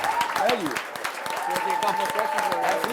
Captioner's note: applause